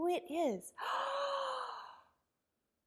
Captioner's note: gasps